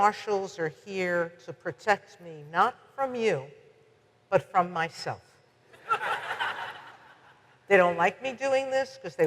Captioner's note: audience laughs